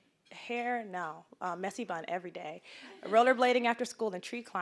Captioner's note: audience chuckling